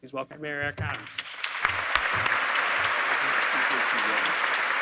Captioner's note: audience clapping